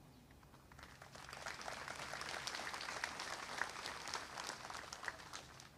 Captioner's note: applause